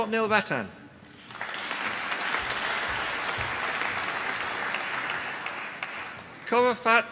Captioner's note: applause